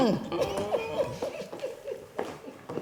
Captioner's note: pat chuckling